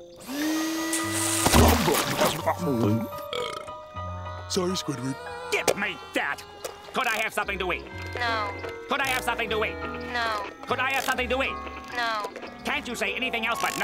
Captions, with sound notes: - Yes. -All right! [scarfing] [burping] -Sorry Squidward. -Give me that. -Could I have something to eat? - No. -Could I have something to eat? - No. -Could I have something to eat? - No.